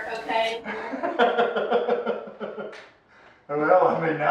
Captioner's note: laughing